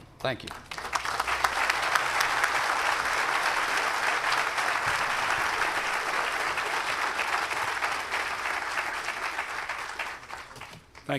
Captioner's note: applause